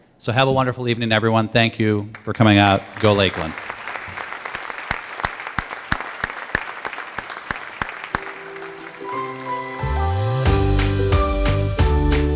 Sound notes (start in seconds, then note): 4.1 applause